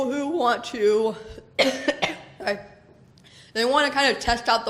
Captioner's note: coughs